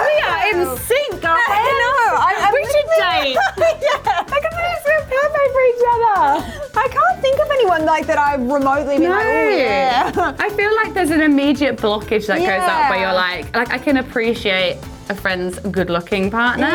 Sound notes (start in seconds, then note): 4.0 laughing